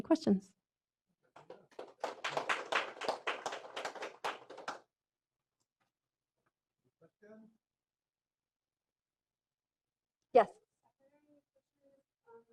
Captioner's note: applause